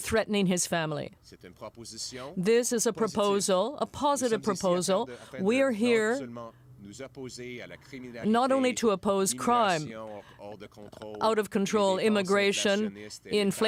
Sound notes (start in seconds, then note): 4.1 speaking French